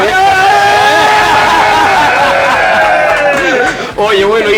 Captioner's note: shouts